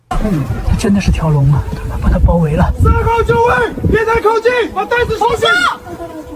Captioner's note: Mandarin dialogue continues